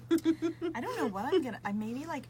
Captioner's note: laughs